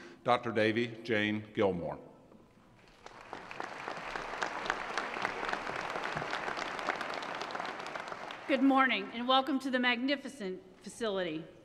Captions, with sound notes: Dr. Davie Jane Gilmour. [ Applause ] >> Good morning, and welcome to the magnificent facility.